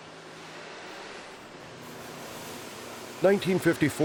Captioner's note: steam hissing